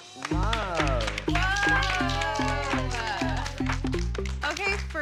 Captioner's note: applause